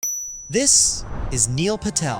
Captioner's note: chime